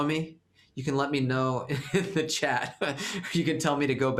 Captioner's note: laughter